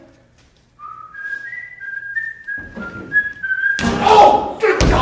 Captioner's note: siren's Whistle